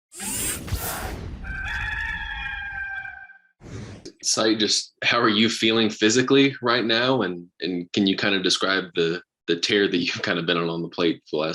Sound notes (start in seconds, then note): 1.4 cock crowing; 3.6 whooshing sound